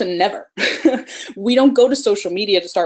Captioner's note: laughs